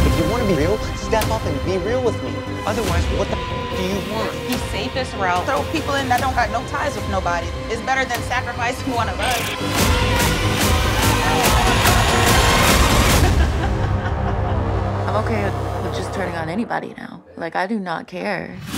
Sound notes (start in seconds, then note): 0.2 intense music; 9.4 music thumps; 11.7 contestants yelling; 13.4 intense music; 15.2 contestant laughing